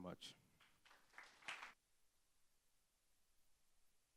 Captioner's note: clapping